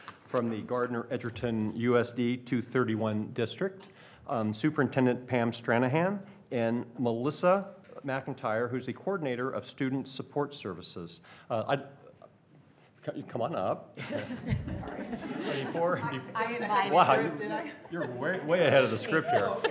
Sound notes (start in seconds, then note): 14.0 laughing